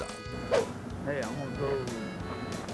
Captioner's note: air swoosh